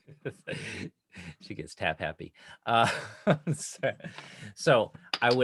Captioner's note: laughing